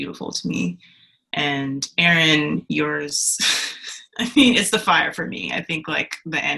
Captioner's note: laughs